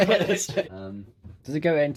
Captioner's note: laughter